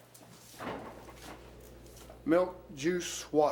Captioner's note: fridge door clatters open